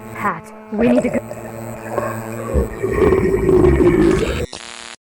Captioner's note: gurgling